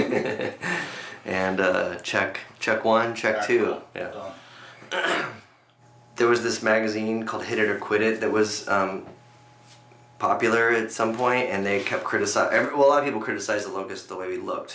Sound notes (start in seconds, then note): 0.0 laughs; 4.9 clears throat